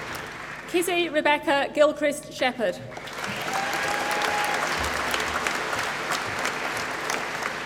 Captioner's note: applause